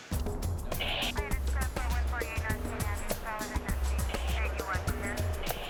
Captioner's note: faint radio chattering